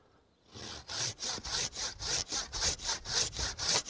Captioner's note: sawing